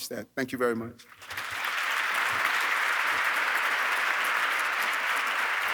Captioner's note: audience clapping